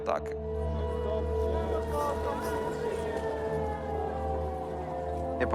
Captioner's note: siren blaring